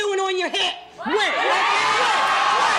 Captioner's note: audience screaming